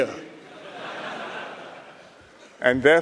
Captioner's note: laughter